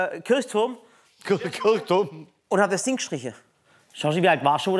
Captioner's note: lachend